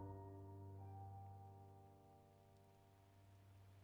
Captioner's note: none